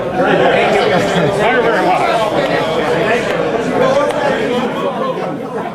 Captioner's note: crowd chatter overlapping